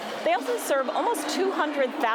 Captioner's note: none